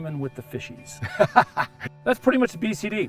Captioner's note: laughter